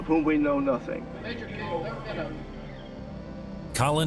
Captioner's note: reporters clamoring